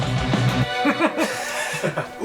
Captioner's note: laughs